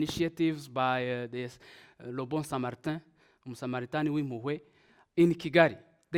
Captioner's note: speaks in foreign language